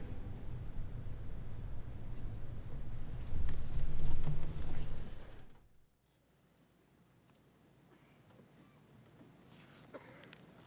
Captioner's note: silence